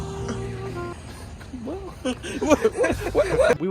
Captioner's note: uncertainty noises